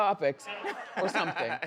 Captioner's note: everyone laughs